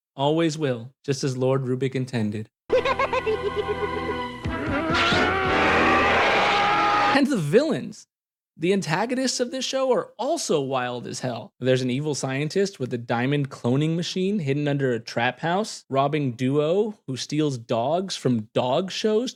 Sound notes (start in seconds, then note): 2.7 laughter